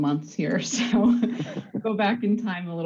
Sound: all laughs

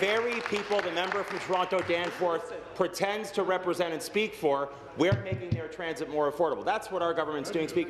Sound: applause

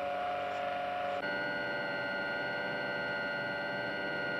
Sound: buzzing

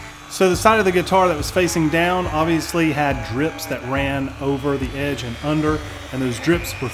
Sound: tool buzzing; country rock music; upbeat music

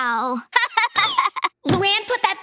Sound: laughing

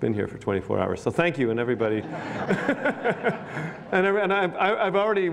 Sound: laughs

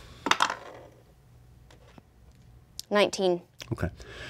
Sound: dice clatter

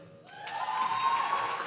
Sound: applause

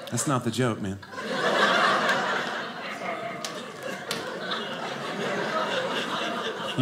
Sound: audience laughing

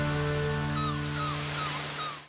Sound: seagull caws

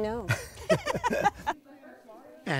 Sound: laughter

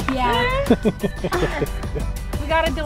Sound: laugh

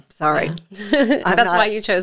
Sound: laughs

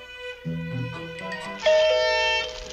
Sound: doorbell rings; blows party horn

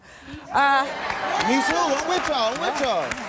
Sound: applause

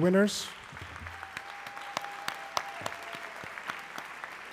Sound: audience clapping

